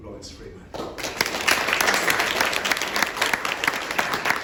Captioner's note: applause